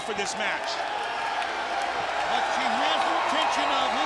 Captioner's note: crowd chatter